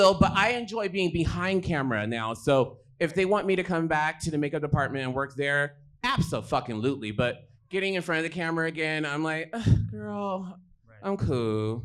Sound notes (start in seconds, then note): 9.6 groans